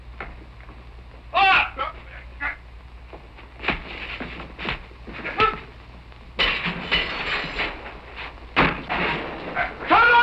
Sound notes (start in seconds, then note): 1.3 yelling; 5.2 grunting; 6.4 crashing